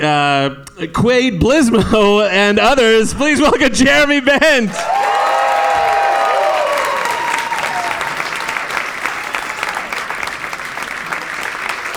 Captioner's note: audience applause